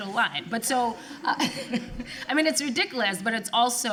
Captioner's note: laughs